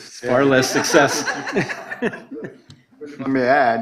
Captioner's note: laughter